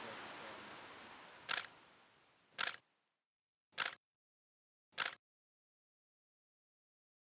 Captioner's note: camera shutter clicks